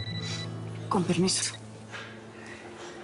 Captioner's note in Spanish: Suena el celular